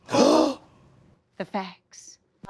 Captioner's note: people gasping